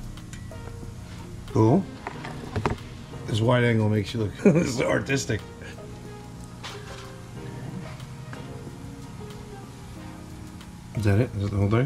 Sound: laughs

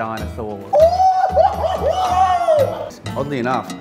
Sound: exclaims

